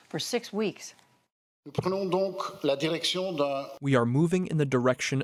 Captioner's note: through translator